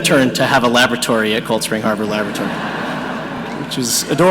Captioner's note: audience laughing